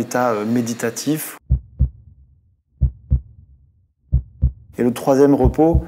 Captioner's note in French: battement de cœur